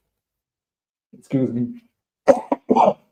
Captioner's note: coughing